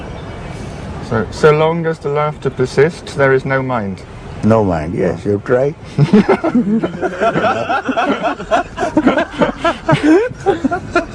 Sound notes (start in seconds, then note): 8.5 laughter